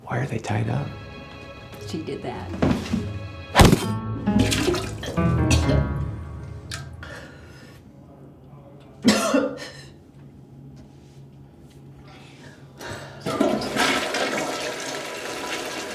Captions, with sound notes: - Why are they tied up? (suspenseful music) - She did that. (crowbar thuds) (Norma vomiting)